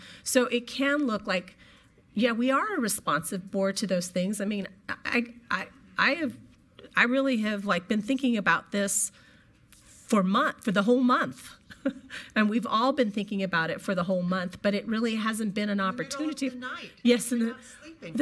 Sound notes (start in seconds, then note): 11.6 chuckles